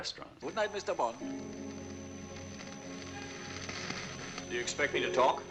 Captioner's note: laser whirring, flame crackling